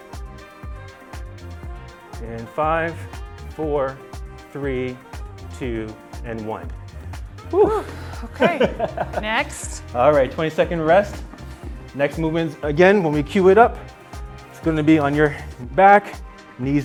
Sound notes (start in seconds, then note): 5.0 in unison, laughing also